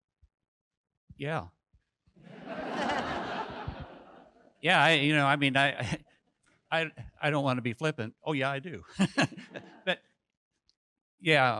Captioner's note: audience laughs